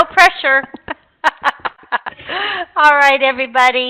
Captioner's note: chuckling